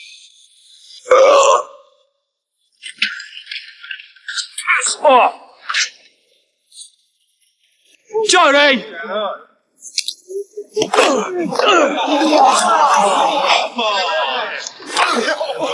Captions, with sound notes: (man burps) Piss off! Jodie! (grunting) (man retches) - [Crowd] Oh!